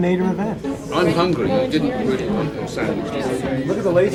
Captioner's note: room chatter